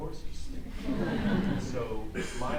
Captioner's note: audience laughs